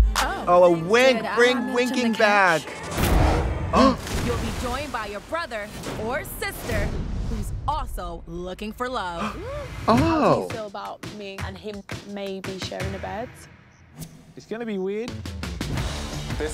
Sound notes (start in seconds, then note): 0.0 musical flourish; 3.0 intense music; 3.7 both gasp; 3.8 water splashes; 9.2 gasps; 14.9 upbeat music